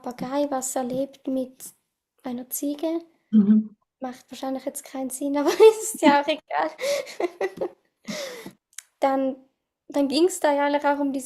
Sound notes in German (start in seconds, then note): 8.1 gelächter